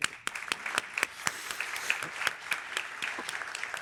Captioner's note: applause